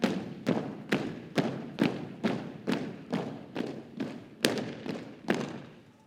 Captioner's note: rhythmic thumping continues